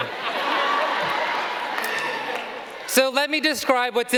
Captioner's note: audience laughing